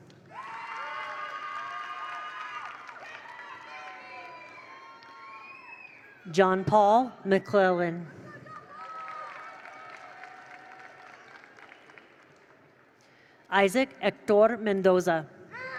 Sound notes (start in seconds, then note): 0.2 attendees cheer; 0.2 attendees applaud; 8.2 attendees cheer; 8.5 attendees applaud